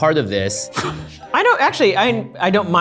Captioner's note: laughs